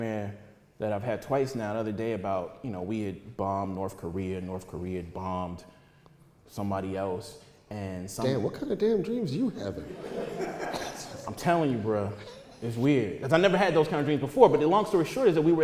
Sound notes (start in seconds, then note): 9.8 audience laughter